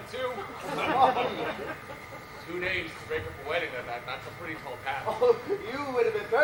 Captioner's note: laughing